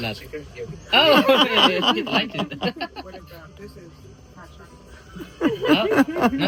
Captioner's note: loud laughter